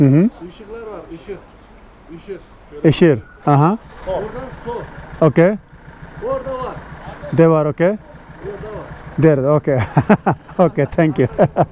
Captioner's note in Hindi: तुर्की में बोलते हुए